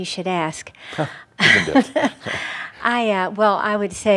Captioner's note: they chuckle